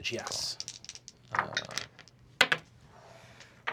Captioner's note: rolls dice